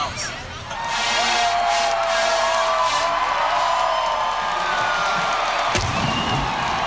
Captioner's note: big band music; crowd cheering